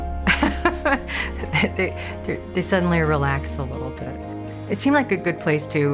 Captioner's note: laughs